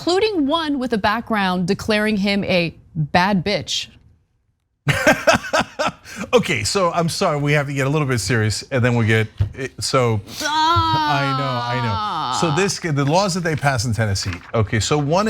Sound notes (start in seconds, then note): 4.9 laugh